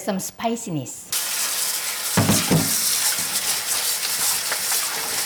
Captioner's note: water splashing